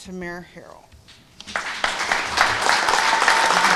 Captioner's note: applause